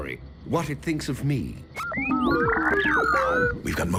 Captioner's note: beeping